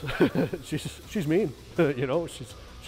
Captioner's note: laughs